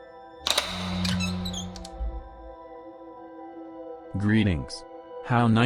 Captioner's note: lock clicks; door squeaks